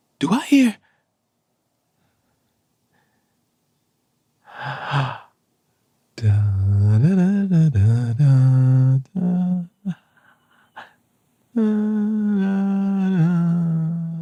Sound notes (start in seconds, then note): 6.1 humming a melody; 11.3 humming a melody